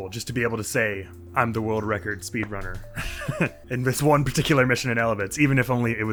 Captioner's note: giggles